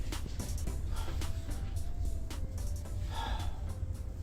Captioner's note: blissful music; Patient #4 huffs